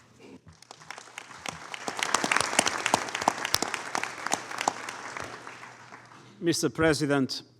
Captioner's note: applause